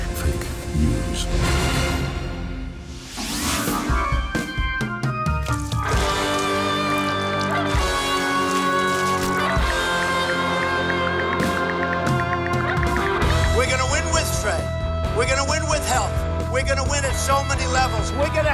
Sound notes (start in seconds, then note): 2.0 exciting music; 4.0 rock music; 5.4 paint splattering; 10.2 ticking